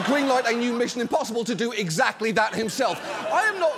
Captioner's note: studio audience laughs